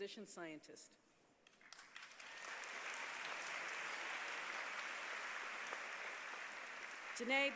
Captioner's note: applause